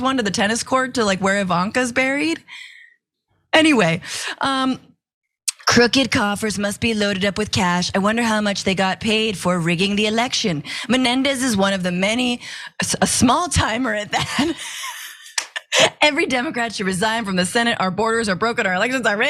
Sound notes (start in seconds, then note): 14.2 laugh